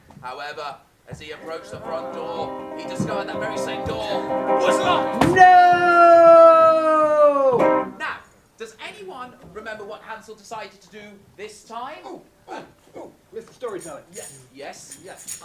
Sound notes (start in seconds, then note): 5.2 scream